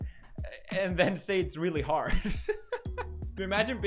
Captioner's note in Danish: giggles